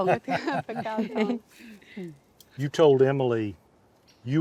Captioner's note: speaking in foreign language